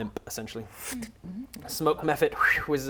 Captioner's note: fwit